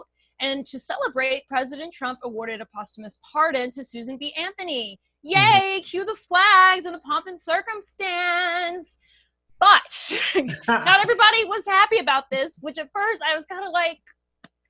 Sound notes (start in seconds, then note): 10.1 laughter